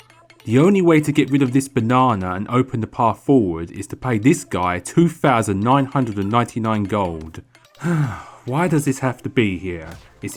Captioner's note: sigh